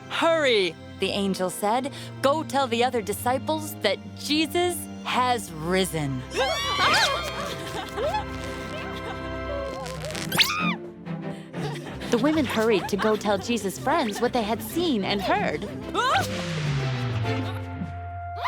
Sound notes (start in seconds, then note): 6.3 shrieks; 10.3 screams; 16.0 shouts; 18.2 shrieks